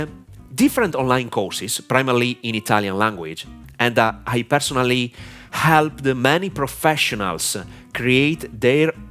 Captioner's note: primarily in italian language